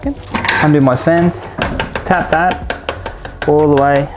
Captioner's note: tapping on tool